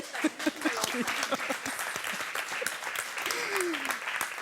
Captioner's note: applause